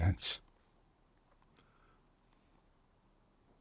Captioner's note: pauses 6 seconds